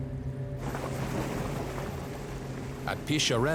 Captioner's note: bubbling